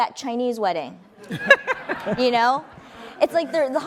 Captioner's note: laughing